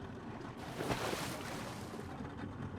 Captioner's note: water splashes